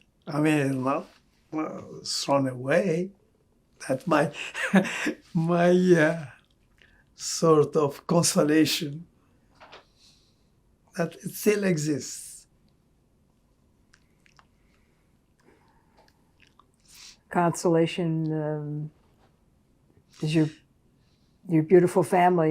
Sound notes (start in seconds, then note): 4.1 laughing